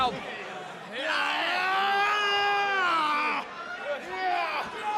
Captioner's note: gran shouting